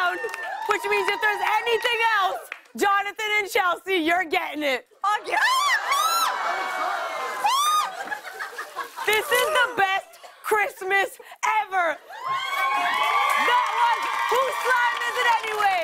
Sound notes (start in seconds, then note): 5.4 screaming; 6.0 laughter; 12.0 cheers and applause